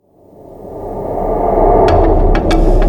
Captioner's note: gentle whooshing; upbeat music